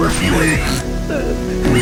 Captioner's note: Riley cries